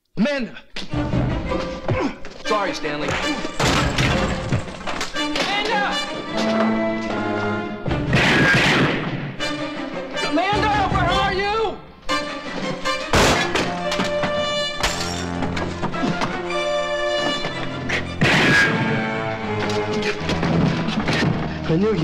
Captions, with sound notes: - Amanda. Sorry Stanley. Amanda! (gun firing) Amanda, where are you? (glass breaking) (gun firing)